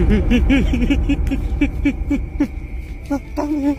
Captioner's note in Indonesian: tertawa